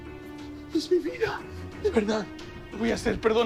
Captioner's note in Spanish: Sollozos